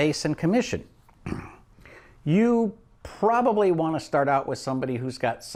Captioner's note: clears throat